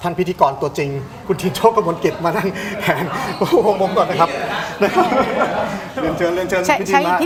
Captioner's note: laughs